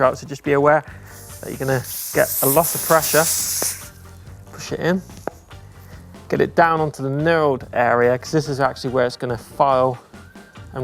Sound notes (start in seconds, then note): 3.7 tire hissing